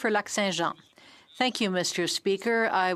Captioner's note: speaking French